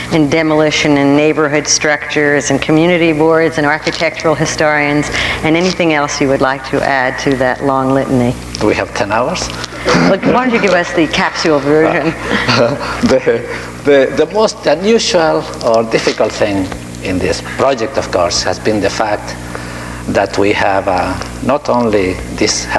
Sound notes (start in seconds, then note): 9.8 audience laughing